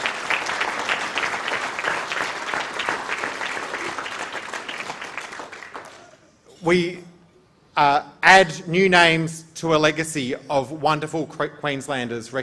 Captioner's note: applause